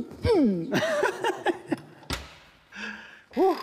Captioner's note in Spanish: Risas